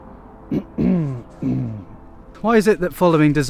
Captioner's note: throat clears